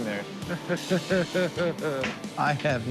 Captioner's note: laughs resignedly